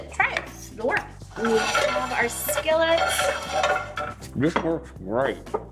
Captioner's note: pans clanging